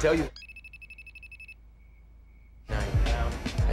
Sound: cell phone ringing

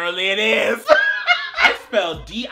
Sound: laughing

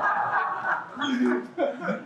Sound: laughing

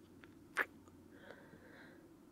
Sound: kiss

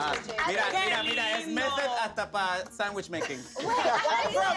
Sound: speaks in a foreign language

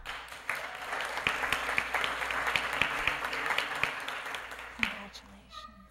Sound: applause

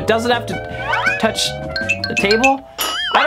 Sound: bells ring

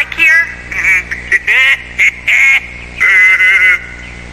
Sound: chuckling deviously

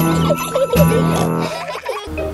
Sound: children giggling; peppa snorts

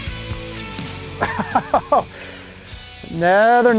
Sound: laughing

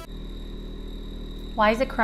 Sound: machine whirring

